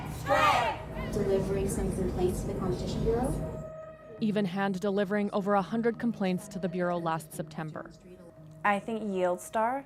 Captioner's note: chanting